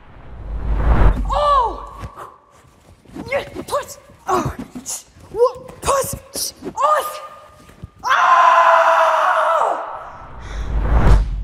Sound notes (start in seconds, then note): 3.5 woman grunting; 8.0 woman screams